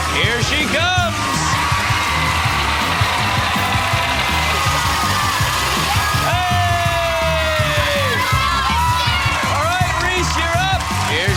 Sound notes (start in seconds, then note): 6.4 cheering and applause